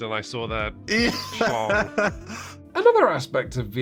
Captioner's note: man laughs